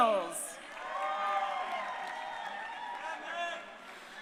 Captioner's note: crowd cheering